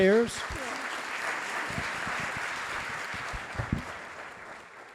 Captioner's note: audience applauding